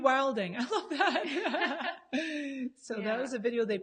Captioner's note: laughs